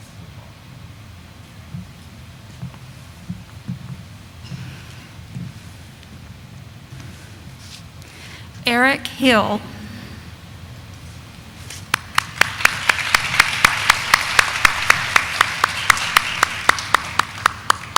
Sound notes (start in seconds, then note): 11.9 audience applauding